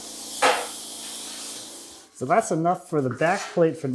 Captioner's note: sparks hissing; metal clanking